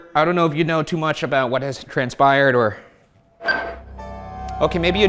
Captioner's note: device beeps